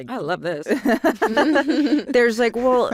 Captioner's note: laughter